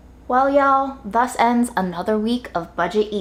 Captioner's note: none